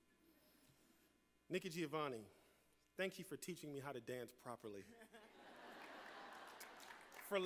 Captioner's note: laughter